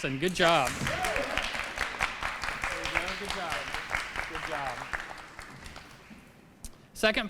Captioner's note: applause